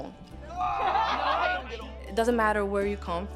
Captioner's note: laughter